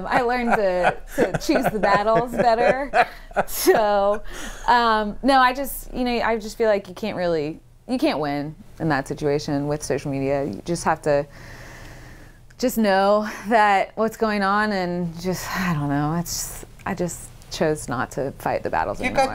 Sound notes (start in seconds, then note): 4.3 laughs